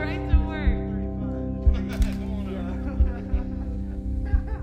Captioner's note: laughs